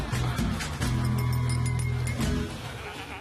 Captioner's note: glass clinking